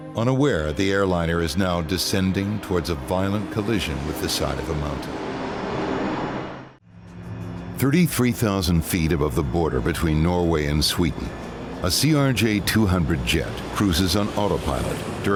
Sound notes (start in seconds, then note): 5.5 airplane engine roaring